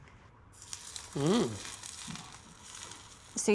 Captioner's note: sizzling